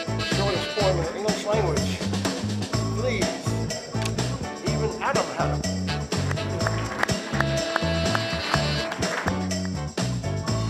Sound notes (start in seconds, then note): 8.2 applause